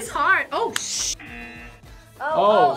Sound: buzzer rings

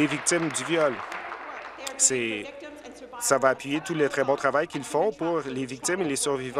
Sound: applause

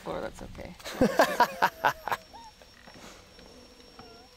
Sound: laughing

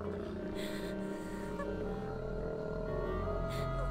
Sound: low growl

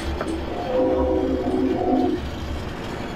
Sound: train whistle

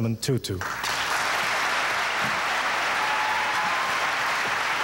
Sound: audience applauding

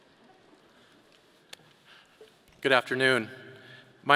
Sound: none

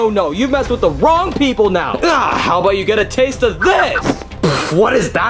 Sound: sputters

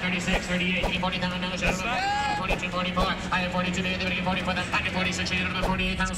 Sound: auctioneer chant

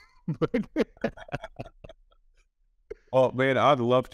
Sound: both chuckle

